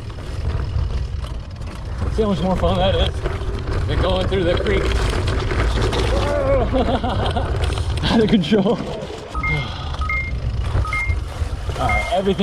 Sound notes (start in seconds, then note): 5.3 bike clattering; 5.9 grunts; 6.2 chuckles; 9.3 beeping